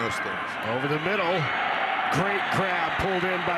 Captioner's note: fans cheer